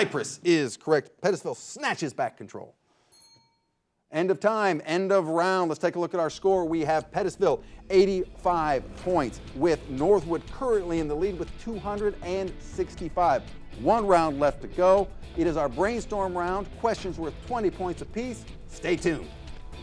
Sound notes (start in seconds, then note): 3.1 bell dings; 10.9 clock ticking; 17.1 upbeat music